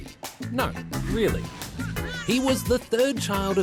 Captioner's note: baby cries